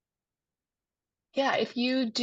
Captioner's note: silence